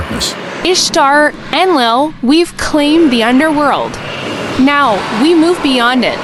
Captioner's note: voice like crackling embers